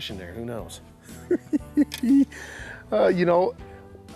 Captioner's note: giggling